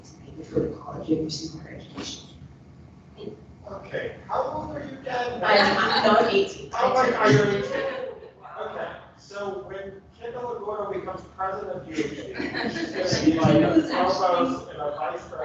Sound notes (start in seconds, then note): 6.7 people laughing; 13.2 laughing drowns out speaker